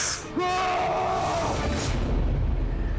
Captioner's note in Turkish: Bağırıyor